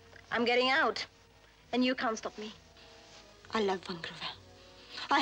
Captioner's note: none